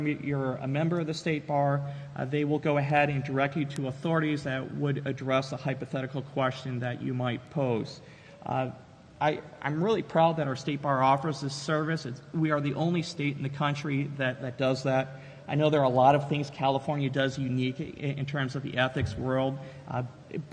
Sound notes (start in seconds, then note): none